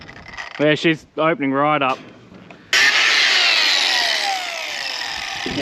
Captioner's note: grinder whirring